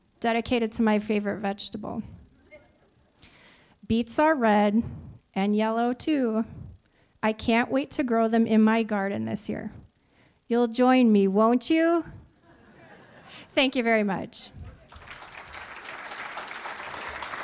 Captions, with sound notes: dedicated to my favorite vegetable. (audience laughing) Beets are red and yellow too, I can't wait to grow them in my garden this year. You'll join me, won't you? (audience laughing) Thank you very much. (audience clapping)